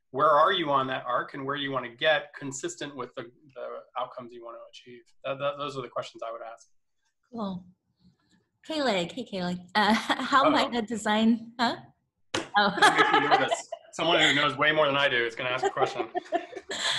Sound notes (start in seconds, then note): 12.6 laughs